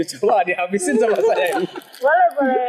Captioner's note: laughs